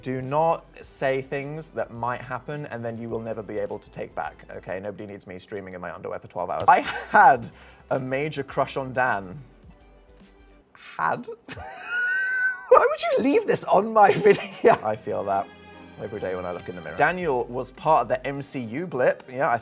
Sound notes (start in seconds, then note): 11.4 laughing; 15.4 solemn music playing